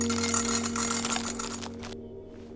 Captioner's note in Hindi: none